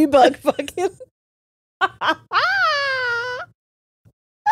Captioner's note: all laughing